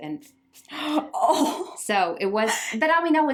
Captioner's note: gasping